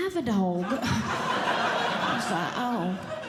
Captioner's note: audience Laughing